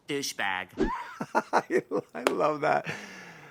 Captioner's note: laughs